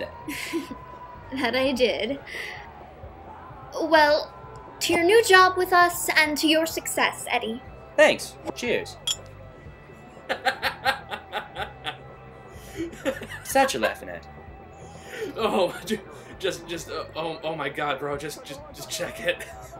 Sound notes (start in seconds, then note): 0.2 laughs; 9.0 clink; 10.3 laughing